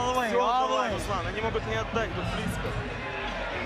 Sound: continues speaking foreign language

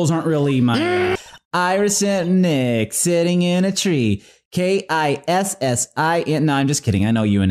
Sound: singsong

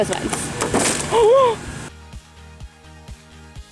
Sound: gasping

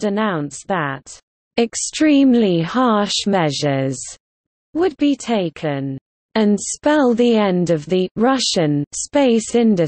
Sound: Russian

